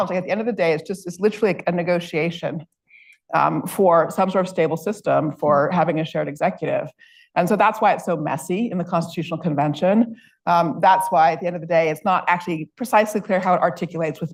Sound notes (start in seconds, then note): none